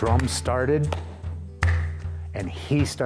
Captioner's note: claps hands